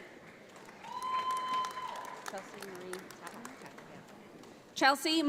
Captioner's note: audience applauds